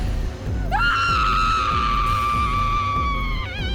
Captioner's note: yells